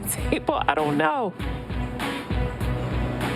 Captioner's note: laughs; upbeat music plays